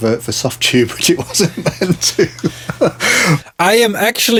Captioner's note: laughing